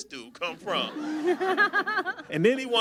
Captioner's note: audience laughs